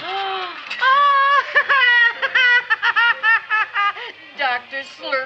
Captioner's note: Seymour's mother gasps; Seymour's mother laughs